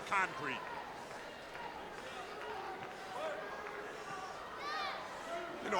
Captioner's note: crowd chattering